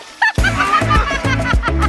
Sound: laughing; upbeat music

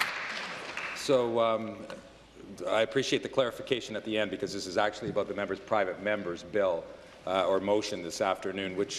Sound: applause

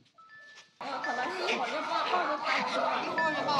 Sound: people chatting in the background about other dogs

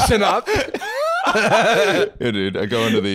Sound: both laughing

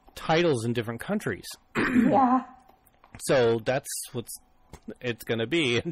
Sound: clears throat

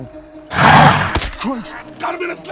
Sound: John growling

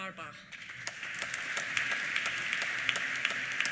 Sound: applause

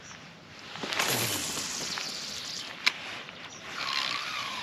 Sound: rod line whooshing; reel spinning

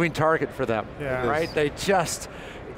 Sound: group chatter

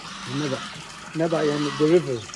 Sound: Arabic

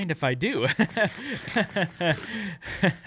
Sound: laughs

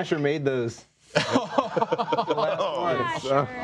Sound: laughing

